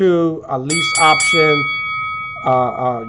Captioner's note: bell dinging